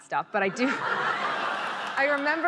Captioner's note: laughter